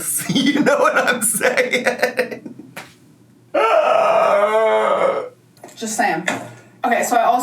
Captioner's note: laughs; groans